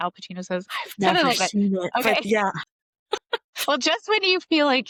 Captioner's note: laughter